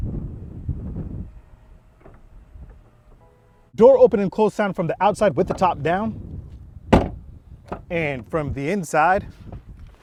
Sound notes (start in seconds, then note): 0.0 wind soughs; 2.0 door clicks; 6.9 door bangs